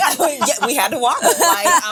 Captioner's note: women laughing